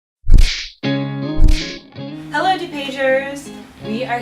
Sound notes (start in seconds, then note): 1.4 punch Sound; 1.4 upbeat Music